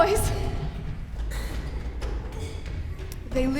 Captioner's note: running footseps